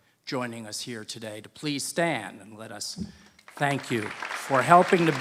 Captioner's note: applause